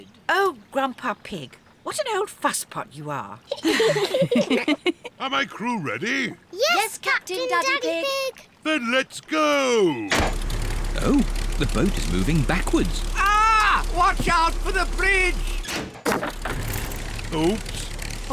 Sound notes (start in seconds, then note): 3.5 all giggle; 9.8 lever clunks; 15.8 crunching